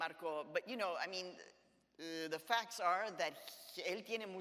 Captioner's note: speaks in Spanish